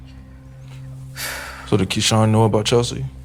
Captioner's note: Davina sighing